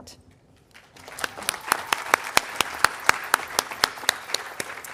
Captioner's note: audience applauding